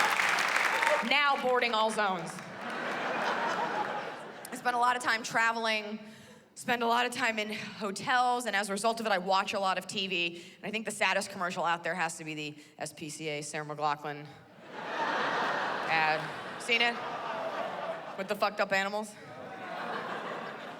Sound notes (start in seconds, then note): 2.4 laughter